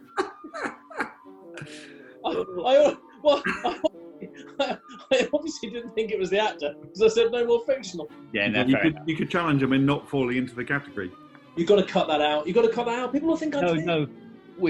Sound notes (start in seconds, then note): 0.0 laughter; 3.7 laughing